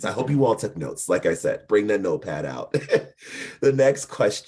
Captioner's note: chuckling